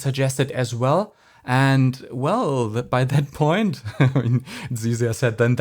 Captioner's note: chuckles